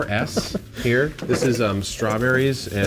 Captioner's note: laughs